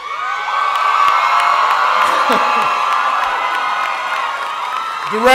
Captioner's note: cheering